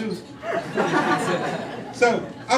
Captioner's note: crowd laughing